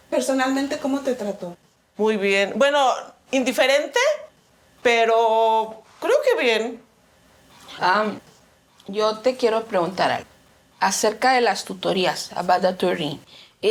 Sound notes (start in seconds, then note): 0.3 student speaking in Spanish; 2.3 speaking in Spanish; 9.3 speaking in Spanish